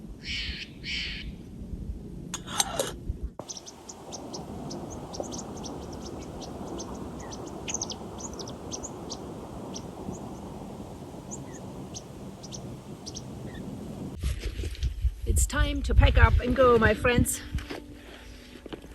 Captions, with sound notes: [Sound of a Steller's Jay calling and lid closing] [Sound of a bird chirping] It's time to pack up and go, my friends.